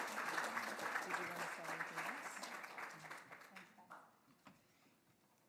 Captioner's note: applause